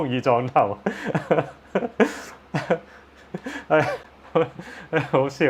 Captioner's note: laughs